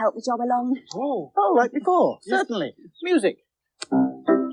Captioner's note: snaps Fingers